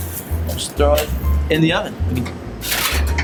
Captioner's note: oven door closes